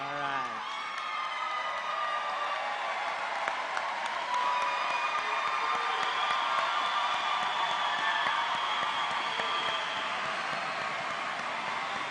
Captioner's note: applause